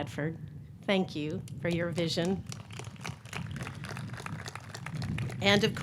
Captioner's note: audience clapping